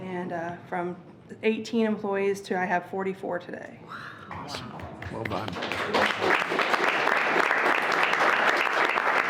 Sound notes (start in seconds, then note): 4.4 everyone applauding